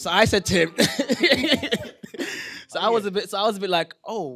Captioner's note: laughter